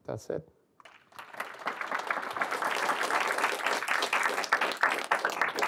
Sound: clapping

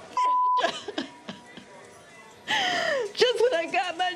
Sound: sobs

